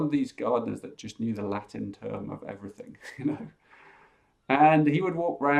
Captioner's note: chuckles